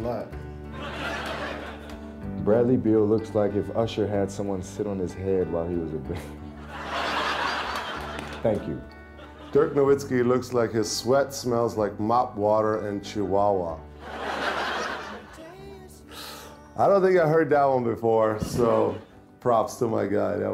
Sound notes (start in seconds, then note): 0.6 crowd laughing; 6.4 crowd laughing; 6.5 chuckling; 14.0 crowd laughing